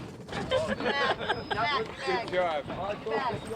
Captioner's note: laughing